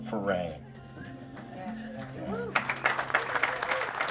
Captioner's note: clapping